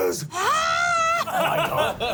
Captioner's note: screams